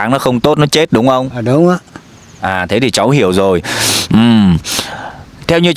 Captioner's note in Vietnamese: khịt mũi